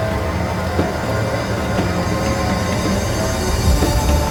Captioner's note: chair rocking; intense wind and sounds; car driving on gravel